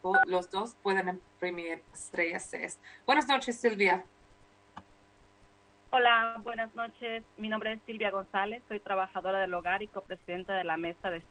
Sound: speaking spanish

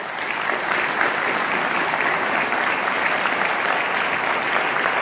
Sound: audience applauding

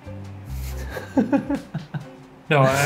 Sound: laughing

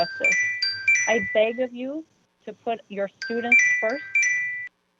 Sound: chime

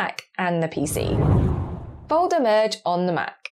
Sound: air whooshing

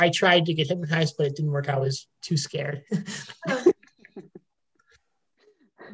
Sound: laughing

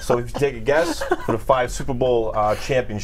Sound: laughter

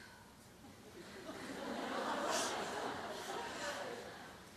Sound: laughter

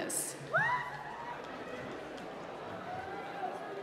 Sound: applause

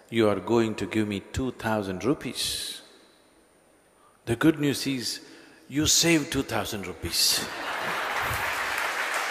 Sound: laughter

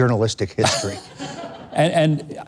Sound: audience laughing

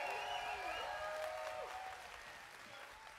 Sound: whoops, whistles, applause

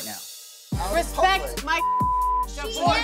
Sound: beep

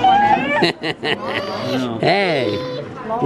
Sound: laughing

